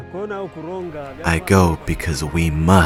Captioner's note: speaking in foreign language